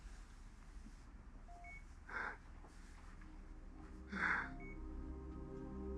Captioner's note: monitor beeping steadily